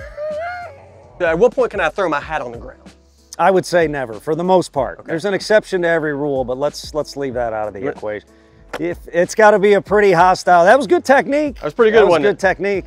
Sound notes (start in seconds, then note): 0.0 laughing; 8.6 hat thudding